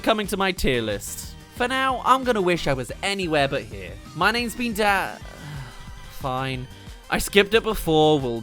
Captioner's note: sigh